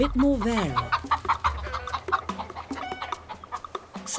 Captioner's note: chickens cluck